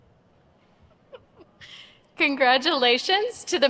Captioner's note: chuckles